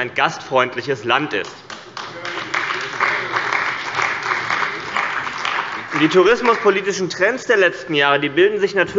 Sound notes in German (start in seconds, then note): 1.4 Beifall bei dem BÜNDNIS 90/DIE GRÜNEN und der CDU